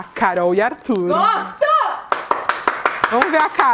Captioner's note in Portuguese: palmas